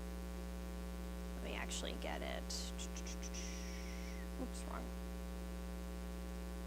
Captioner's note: mouth noises